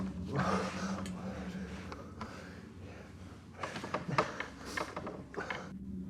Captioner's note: ominous music; heavy breathing